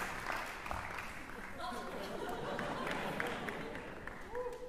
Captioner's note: chuckles